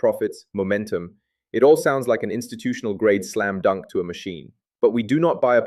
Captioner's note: sarcastic